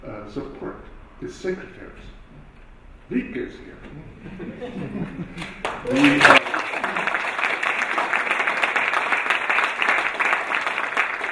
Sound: applause

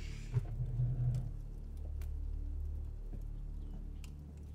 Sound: fire crackling

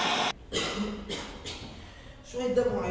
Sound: cough

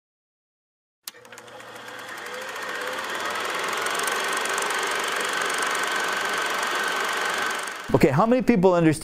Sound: projector whirring

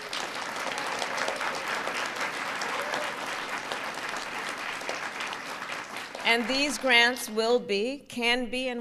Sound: applause

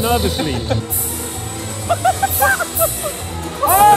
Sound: laughter

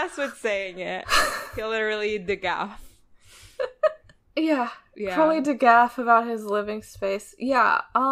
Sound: laughs

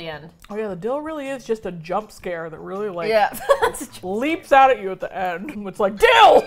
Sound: laughs

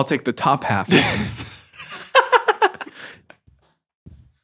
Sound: laughing

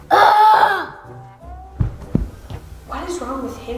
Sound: groaning

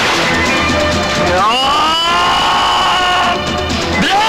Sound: grunts

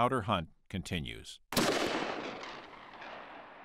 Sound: gunshot

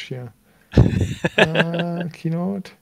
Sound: laughing

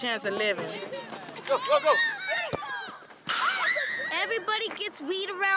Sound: excited Chatter

